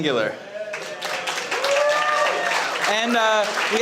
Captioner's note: audience clapping and cheering